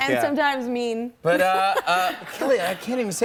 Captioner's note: light laughter